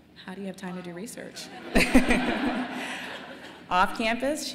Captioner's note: laughter